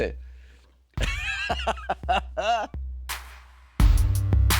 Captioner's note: chuckling; light dramatic music